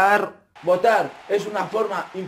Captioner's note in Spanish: Ovaciones